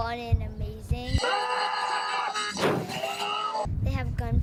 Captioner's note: sirens; yelling